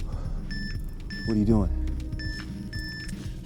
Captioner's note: control panel beeps